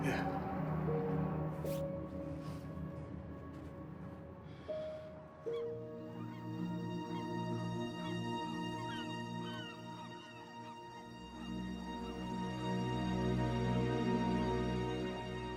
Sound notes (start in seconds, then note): 3.1 gentle ambient music; 3.1 seagulls squawk